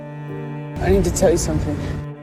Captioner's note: voiceover